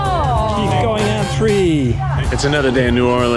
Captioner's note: all groan